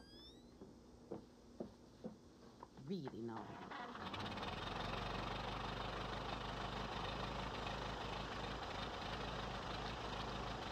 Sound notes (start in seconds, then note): 3.6 engine revving